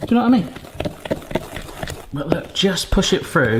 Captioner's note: spoon scraping the bottom of the bowl